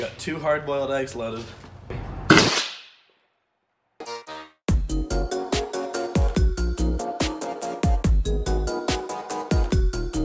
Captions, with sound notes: - You got two hard-boiled eggs loaded. (shoots air cannon) (upbeat music)